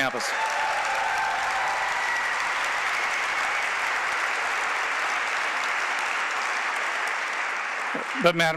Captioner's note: applause